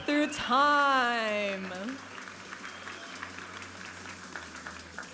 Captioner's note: audience applauding